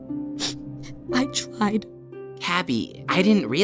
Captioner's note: sniffles